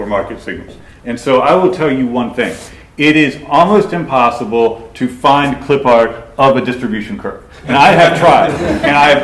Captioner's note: laughter